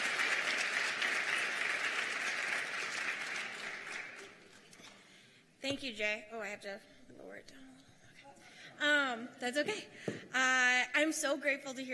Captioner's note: applause